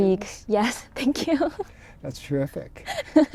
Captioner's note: laughs